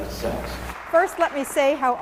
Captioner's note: applause